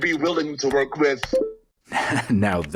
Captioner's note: typing noises; laughs